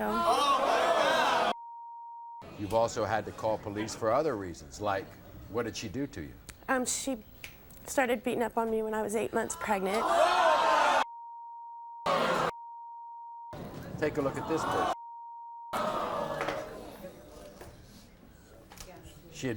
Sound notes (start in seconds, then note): 0.0 audience groans; 9.8 audience yelling; 11.1 beeps; 14.8 beeps; 15.7 audience groans